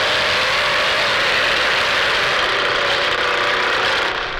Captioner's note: chainsaw revving